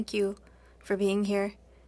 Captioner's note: speaking French